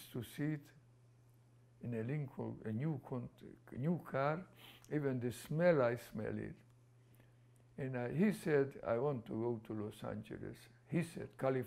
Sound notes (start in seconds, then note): none